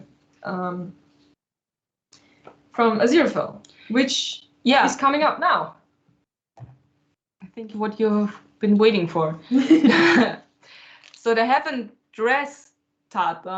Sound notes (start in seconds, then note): 9.5 laughter